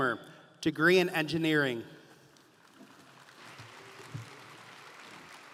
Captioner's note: audience applauding